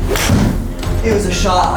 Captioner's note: bang